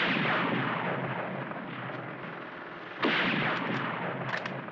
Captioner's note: gunshot